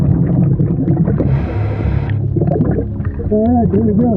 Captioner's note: water bubbling